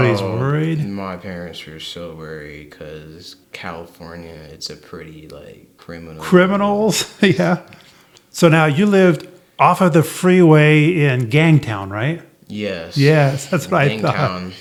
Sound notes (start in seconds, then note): 6.8 laughs